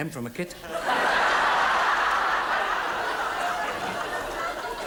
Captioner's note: audience laughs